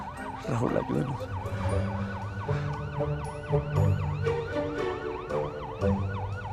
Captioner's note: police sirens